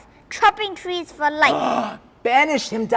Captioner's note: gasps